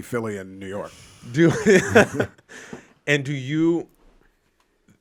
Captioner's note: laughs